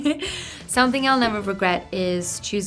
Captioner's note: laughing